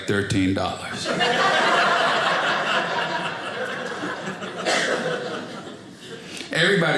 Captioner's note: audience laughing